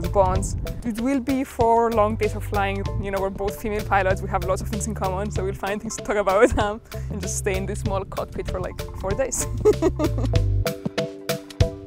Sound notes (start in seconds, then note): 9.4 laughing